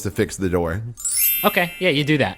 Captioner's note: magic chime